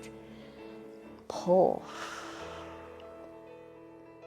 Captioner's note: exhales